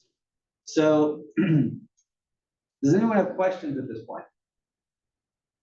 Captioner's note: cough